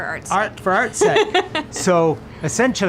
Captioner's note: laughing